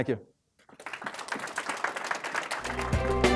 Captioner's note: applause